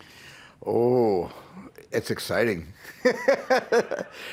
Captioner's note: laughs